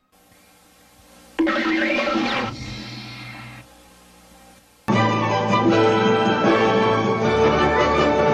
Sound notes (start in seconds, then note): 1.4 cartoon sounds; 4.9 christmas music plays